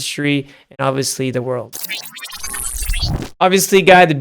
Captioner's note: electric whooshing